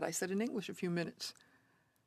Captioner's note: speaking French